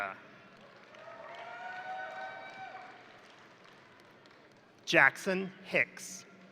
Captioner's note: crowd applauding; crowd cheering